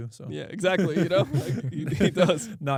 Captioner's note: laughs